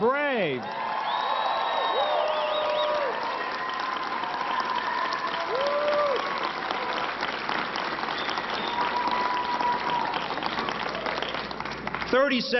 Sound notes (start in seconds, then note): 6.4 applause